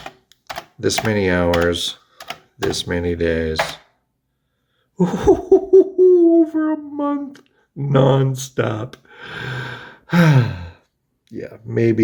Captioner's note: sighs